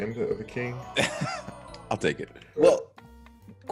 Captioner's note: laugh